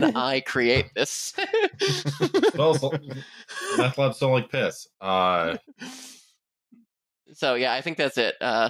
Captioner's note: laughter